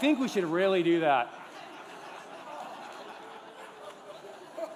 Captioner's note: laughter